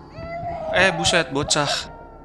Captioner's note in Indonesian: tangis bayi